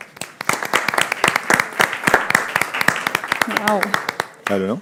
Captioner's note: audience applauding